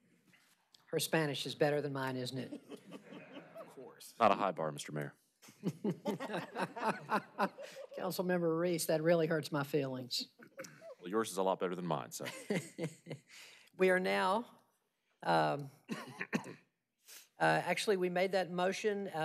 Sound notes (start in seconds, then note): 9.3 laughter